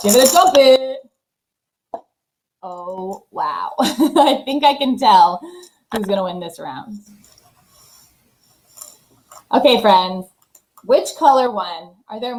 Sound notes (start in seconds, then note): 3.8 chuckles